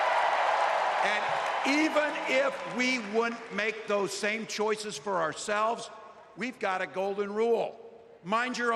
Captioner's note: applause